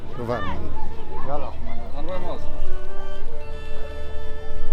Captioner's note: speaking in a foreign language; somber Middle Eastern music